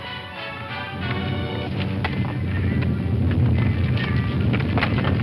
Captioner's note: rock rumbles